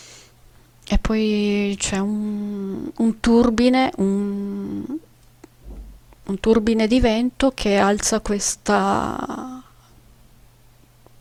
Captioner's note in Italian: gemito